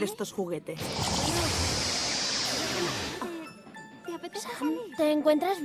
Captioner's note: whoosh